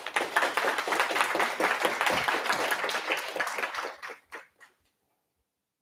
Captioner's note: applause